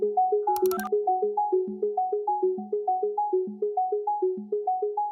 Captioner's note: phone dialing tone